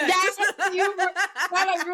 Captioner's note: laughing